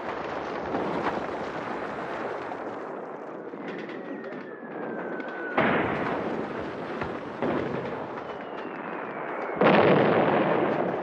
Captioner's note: sound of artillery